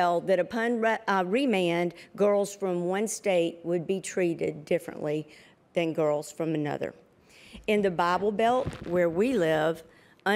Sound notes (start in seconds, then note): none